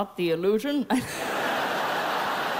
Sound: laughs

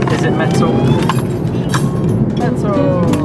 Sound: metal clanging

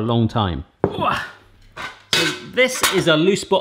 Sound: grunts

